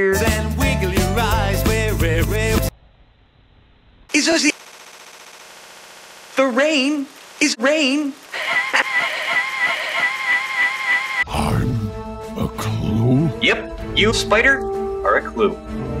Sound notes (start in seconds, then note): 8.3 wheezy laugh reversing back and forth